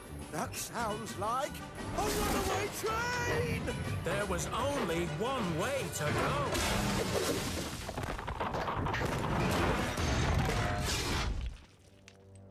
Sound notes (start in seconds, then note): 6.1 crash!; 9.2 rumbling